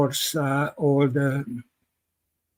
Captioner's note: speaking Hungarian